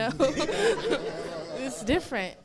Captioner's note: laughs; audience laughing